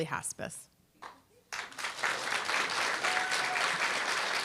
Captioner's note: applause, cheer